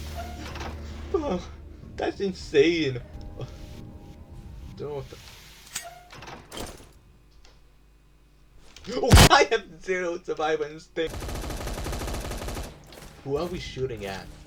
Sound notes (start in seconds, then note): 11.2 gunfire